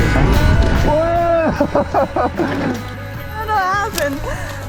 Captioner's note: laughs